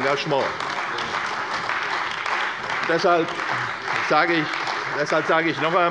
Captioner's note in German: Beifall bei der CDU und dem BÜNDNIS 90/DIE GRÜNEN